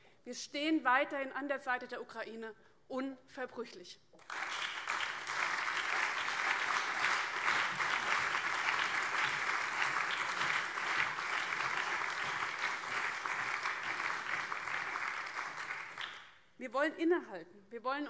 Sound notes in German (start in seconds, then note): 5.8 Beifall BÜNDNIS 90/DIE GRÜNEN, CDU, SPD und Freie Demokraten